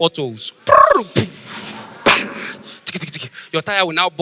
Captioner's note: making sound effects